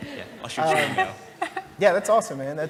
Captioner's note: laugh